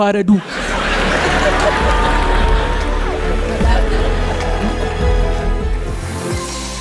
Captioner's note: laughter